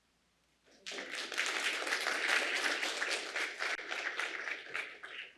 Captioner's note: applause